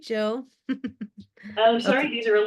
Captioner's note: laughs